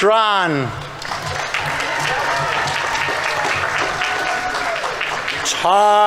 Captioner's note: audience members cheering; audience applauding